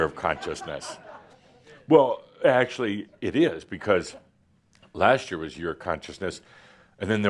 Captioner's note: laughter